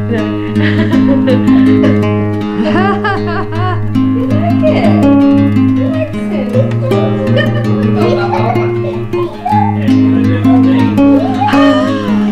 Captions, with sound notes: No. (laughs) (laughter) You like it; he likes it. (laughter)